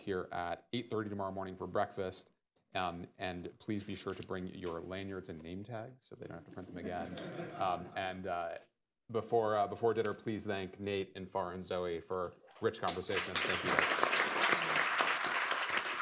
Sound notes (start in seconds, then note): 6.8 laughter; 12.8 applause